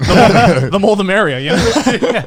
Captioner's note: both laughing